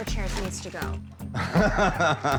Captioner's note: laughs